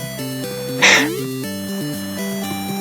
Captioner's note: laugh